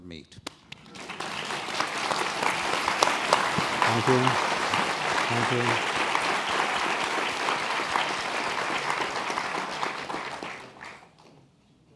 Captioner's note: applause